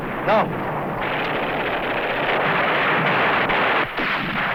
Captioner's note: gunfire